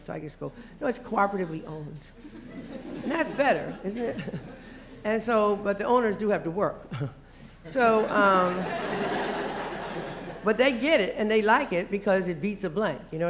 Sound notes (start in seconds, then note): 2.2 laughter; 8.0 laugh; 8.0 laughter